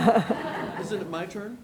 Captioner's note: laughing